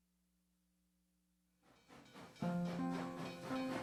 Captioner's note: train chugging; calming music